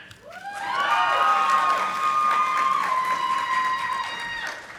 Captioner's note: audience applauding